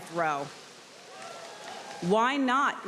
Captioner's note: audience cheering